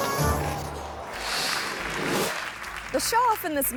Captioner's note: gentle playful music; audience clapping